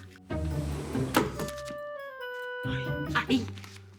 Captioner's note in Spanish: Sonido de la puerta